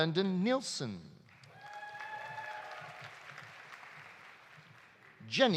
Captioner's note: audience applauding; audience cheering